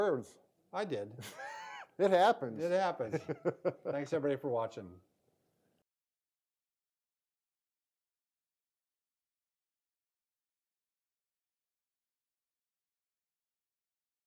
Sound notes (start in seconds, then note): 1.1 chuckles